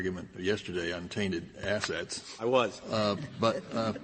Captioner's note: laughter